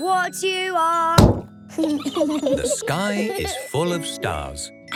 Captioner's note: giggling